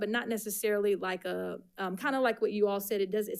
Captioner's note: none